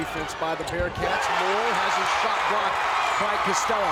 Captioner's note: crowd cheers